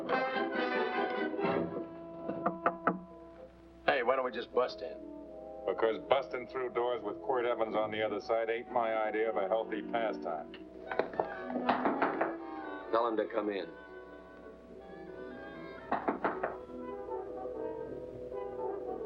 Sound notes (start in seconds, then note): 2.3 knocking on door; 11.7 knocking on door; 16.0 knocking on door